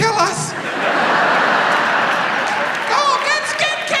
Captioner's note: audience laughs